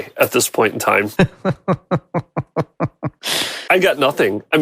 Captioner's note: laughing